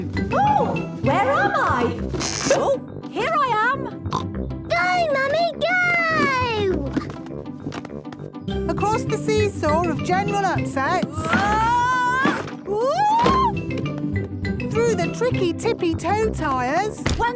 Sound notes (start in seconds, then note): 2.4 pops; 10.8 wood teetering